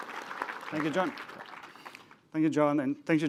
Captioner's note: applause